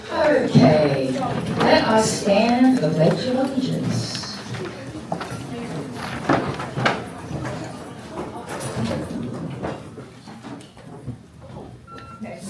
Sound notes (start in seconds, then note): 5.2 applause